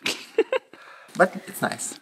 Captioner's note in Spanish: risa fuera de la pantalla